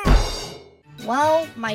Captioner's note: teacher wailing